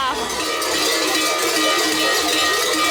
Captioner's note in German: Schellenklang